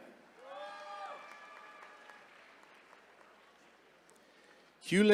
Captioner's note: attendees cheering